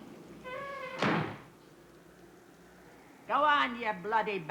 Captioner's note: door creaks and slams